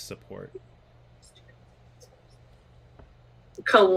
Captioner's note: whispering while signing